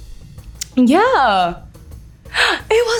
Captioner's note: lips smacking; speaks foreign language